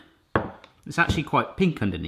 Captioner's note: clunking